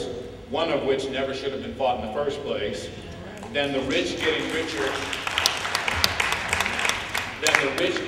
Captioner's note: applause